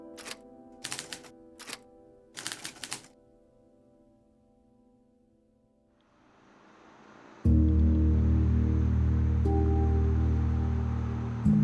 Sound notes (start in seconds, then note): 0.8 typewriter clicking